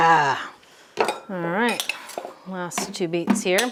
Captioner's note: metal clanging